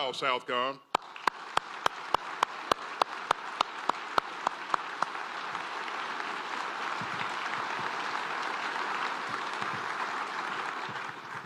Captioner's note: applause